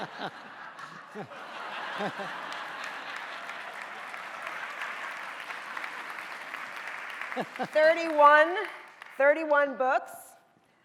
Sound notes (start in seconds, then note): 0.3 laughing; 3.9 audience applauding